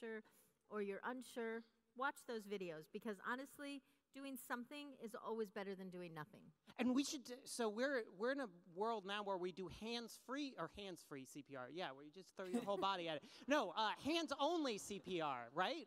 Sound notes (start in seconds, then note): 12.5 laughs